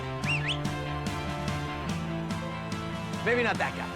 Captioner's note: whistling sound